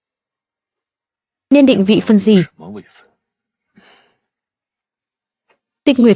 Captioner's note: khịt mũi